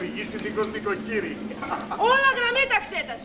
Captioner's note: γέλιο